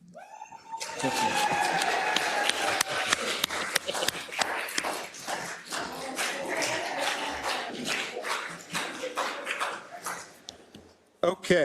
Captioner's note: applause